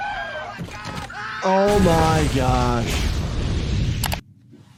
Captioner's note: driver and passenger shriek